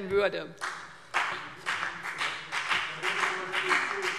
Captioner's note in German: Beifall BÜNDNIS 90/DIE GRÜNEN und vereinzelt CDU